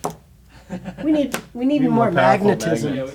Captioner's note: board clinks; producer laughs